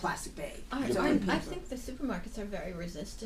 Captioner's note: voiceover